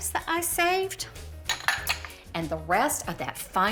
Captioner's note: dishes clink